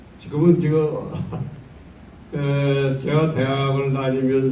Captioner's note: in foreign language